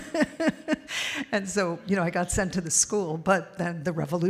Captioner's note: laughter